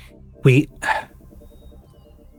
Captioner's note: sighs